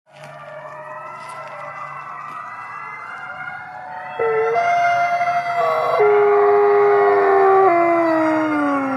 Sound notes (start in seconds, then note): 0.0 wolves howling